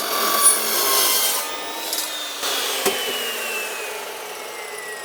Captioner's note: sawing